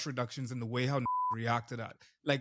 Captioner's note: beep